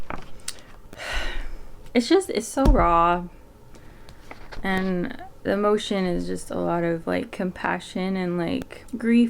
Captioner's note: big sigh